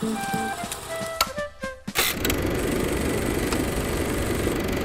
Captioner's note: projector clicking; upbeat music